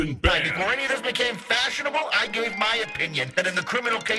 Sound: modulated voice

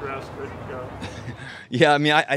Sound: chuckles

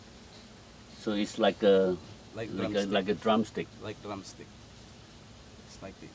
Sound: chef speaking

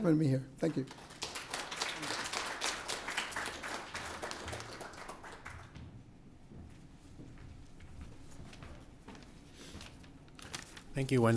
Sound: applause

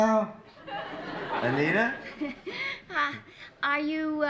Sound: laughter

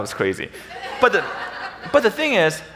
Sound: audience laughing

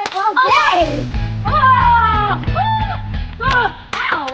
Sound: kids shouting

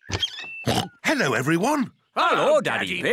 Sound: oinks

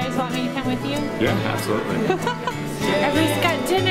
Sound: laughing

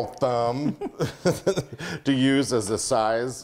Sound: both laugh

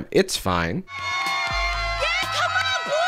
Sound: people cheering

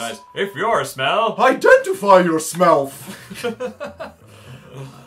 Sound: deep voice; both snigger

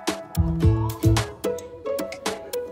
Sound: none

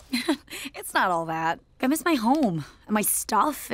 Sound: chuckles

